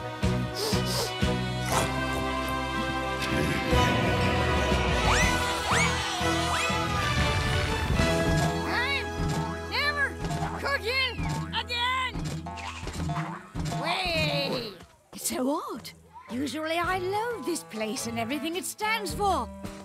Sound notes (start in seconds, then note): 0.5 sniffs; 2.7 chuckles; 3.8 campers cheering